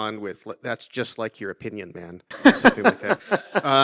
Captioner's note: laugh